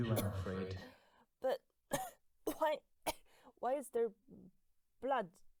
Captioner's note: coughing